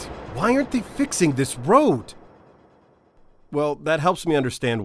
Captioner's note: talking into phone